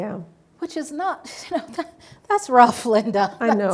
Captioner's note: laughs